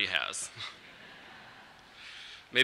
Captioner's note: laughter